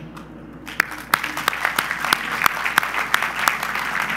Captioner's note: audience applause